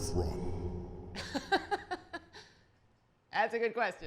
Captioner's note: laughs